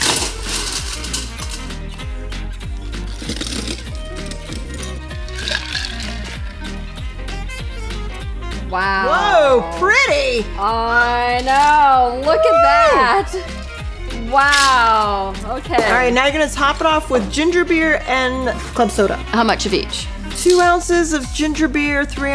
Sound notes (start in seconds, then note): 0.0 ice cubes rattling; 2.6 ice cubes rattling into a collins glass; 13.0 cheering